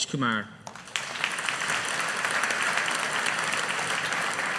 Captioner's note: audience applauding